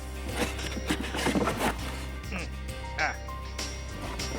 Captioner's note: box rustling